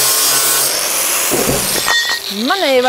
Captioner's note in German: Maschinenlärm